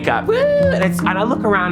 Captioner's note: cheering